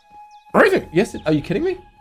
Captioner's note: yoda horse noises